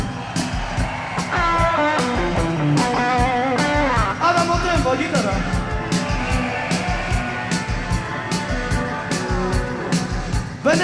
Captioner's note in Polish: Aplauz